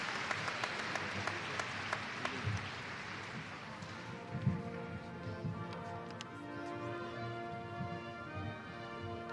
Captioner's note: alause